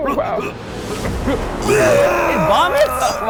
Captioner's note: gurgling